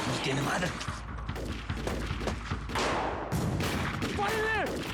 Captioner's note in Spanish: sigue el intenso tiroteo